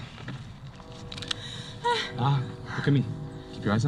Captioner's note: gasp